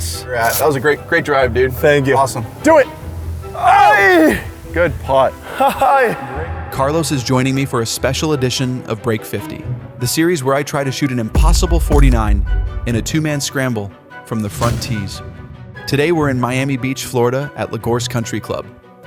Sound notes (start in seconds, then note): 3.6 grunts; 4.8 laughs